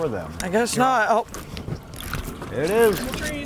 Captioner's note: reel clicking